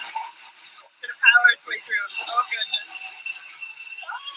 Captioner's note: laugher, chatter